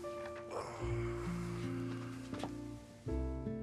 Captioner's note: Rob sighs; gentle music